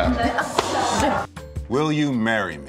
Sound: both laughing

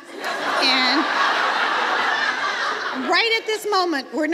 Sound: audience laughs

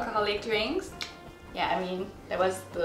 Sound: tongue clicks

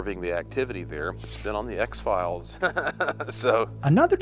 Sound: laughs

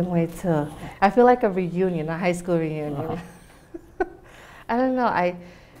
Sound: laughs

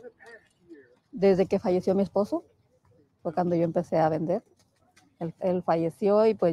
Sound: speaking in foreign language

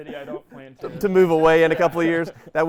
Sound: laughing

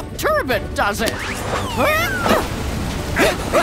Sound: grunting

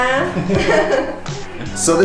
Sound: both laughing

